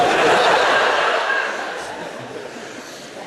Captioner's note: audience laughs